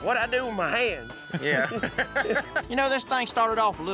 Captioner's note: everyone laughs